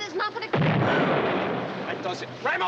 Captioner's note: explosion